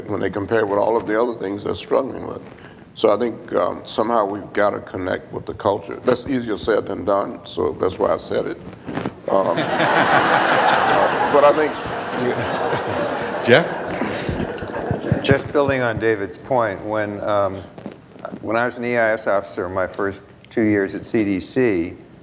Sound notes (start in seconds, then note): 9.4 laughter